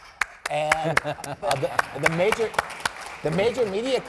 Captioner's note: applauding